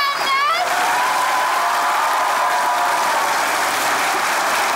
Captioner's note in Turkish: Alkış sesleri